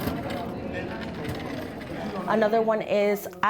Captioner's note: cart rolling; students chattering